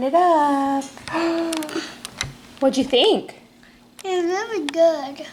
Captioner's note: gasps